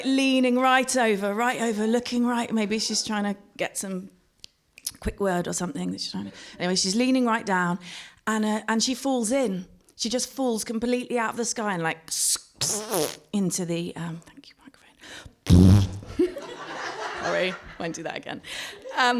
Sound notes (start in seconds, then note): 11.9 makes squelching sound; 13.8 whispers; 15.5 makes squelching sound again